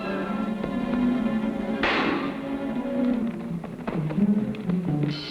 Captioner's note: guns firing